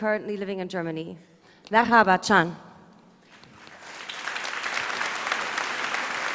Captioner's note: applause